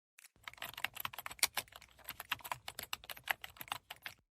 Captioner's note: keyboard typing